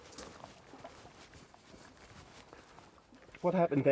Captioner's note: bush rustling